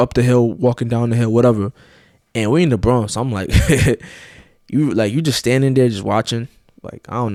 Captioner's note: chuckles